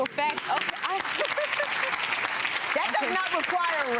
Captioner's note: clapping; laughing